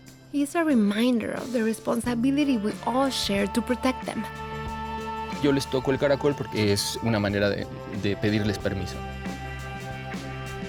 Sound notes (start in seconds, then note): 5.1 speaking Spanish